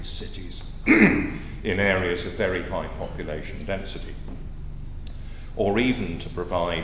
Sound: cough

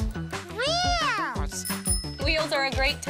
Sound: bell dings

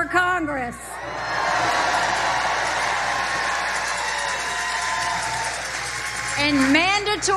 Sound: applause

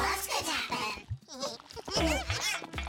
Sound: chuckling; grunting

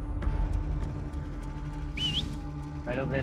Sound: whistles

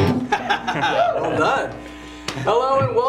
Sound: laughs

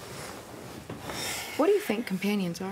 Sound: sighs

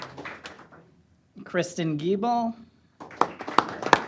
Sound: applause

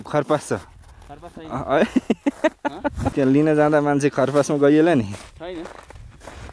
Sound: laughter

